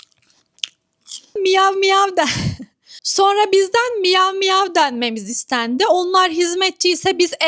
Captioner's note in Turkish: ahaha